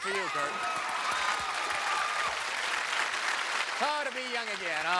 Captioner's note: cheers and applause